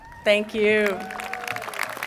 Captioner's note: applause